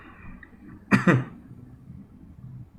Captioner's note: coughs